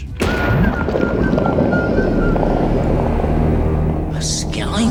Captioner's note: water sounds